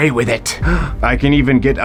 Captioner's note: Patrick gasping